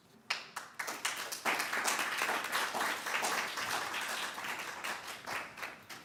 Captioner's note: applause